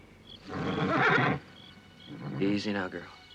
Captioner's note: horse neighing